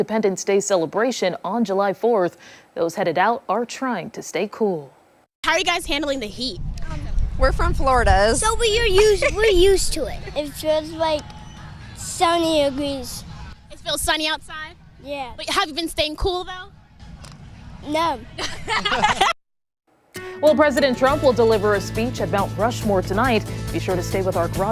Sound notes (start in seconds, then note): 18.4 laughter